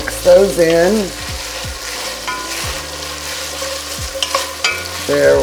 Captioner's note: oil sizzling